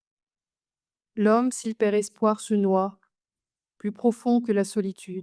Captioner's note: speaks French